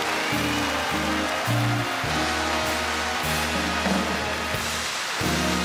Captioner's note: audience applauds and cheers